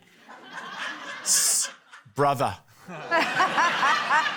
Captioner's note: laughter